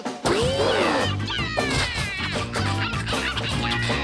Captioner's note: grunting noise